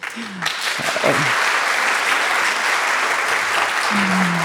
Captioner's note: audience applauds